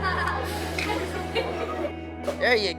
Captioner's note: laughing